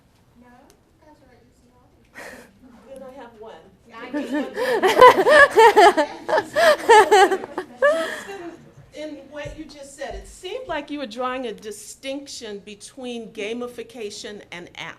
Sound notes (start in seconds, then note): 4.1 laughter; 4.1 chuckles